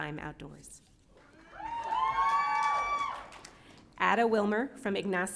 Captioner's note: audience cheering